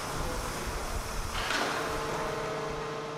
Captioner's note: engine humming, whirring